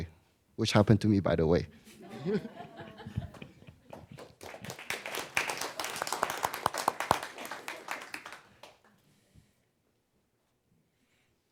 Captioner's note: a few chuckles and applause